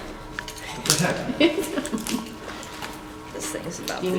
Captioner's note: laughing